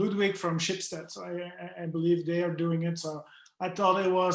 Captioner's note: murmurs